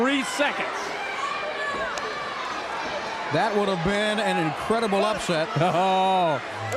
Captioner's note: crowd cheering